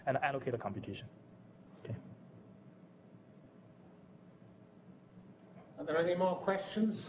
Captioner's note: pause